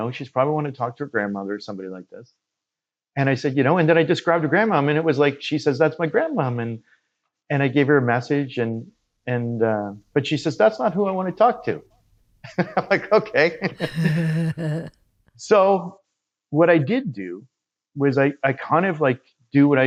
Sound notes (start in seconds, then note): 12.4 laughs